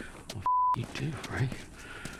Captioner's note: beeping